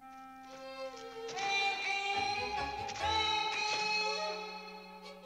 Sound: echoing

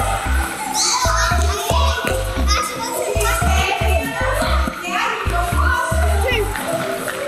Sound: sneakers squeeking

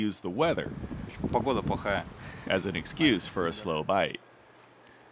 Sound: speaking russian

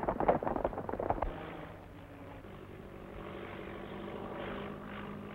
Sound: horse hooves clomping; engine rumbling

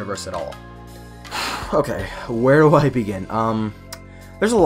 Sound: sigh

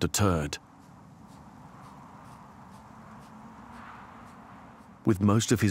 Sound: wind howls

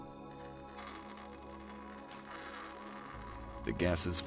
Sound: crackling

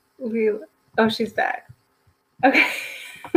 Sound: laughs

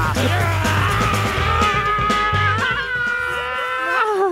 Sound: laughs; growling

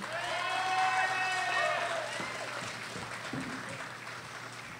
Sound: audience cheers and applauds

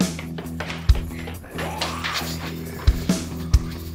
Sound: zombie snarl

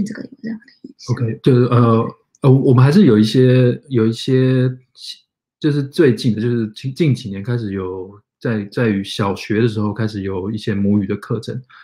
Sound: speaks mandarin

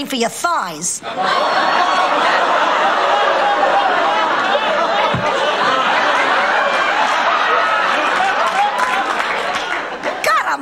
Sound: audience laughter

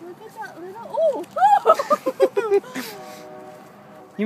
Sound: laughter

